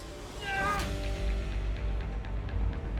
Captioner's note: grunts